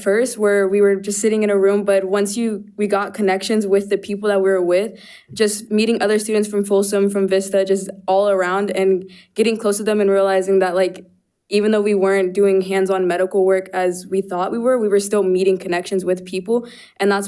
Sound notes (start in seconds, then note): none